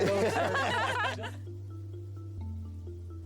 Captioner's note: laughter